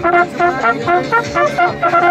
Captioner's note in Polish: sygnał hejnałówek